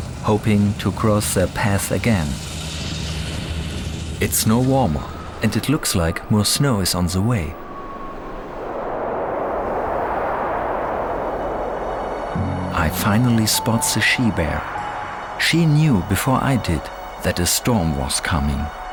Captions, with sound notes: hoping to cross their path again. It's no warmer and it looks like more snow is on the way. [strong wind blows] I finally spot the she-bear. She knew before I did that a storm was coming.